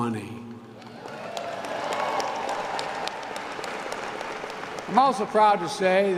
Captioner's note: applause